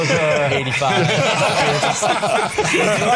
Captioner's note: all laughing